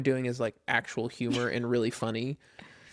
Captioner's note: laughs